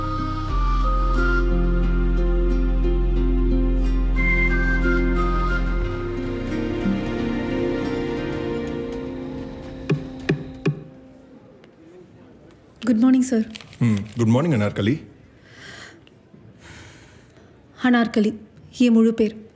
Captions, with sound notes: (door knock) Good morning sir. Good morning Anarkali. Anarkali. That’s my name.